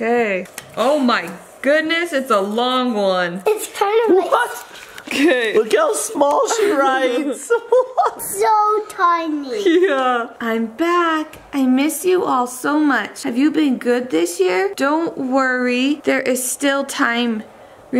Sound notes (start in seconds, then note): 6.4 laughing; 9.6 laughing